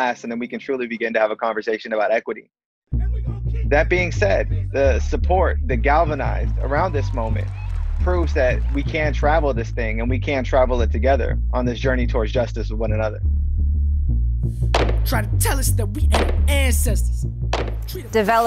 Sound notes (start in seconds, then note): 14.6 gun shots